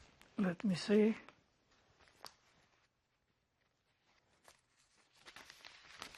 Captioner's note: pauses 11 seconds